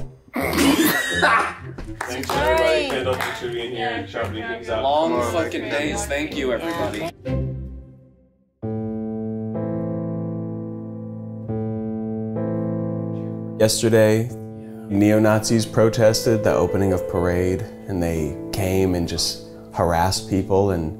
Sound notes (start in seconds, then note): 0.5 laughs; 9.0 somber music